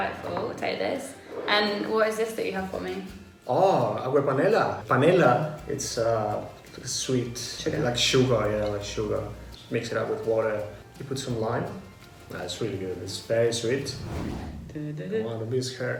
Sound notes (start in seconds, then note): 13.7 swishing